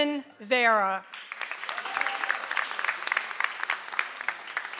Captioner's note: audience applauds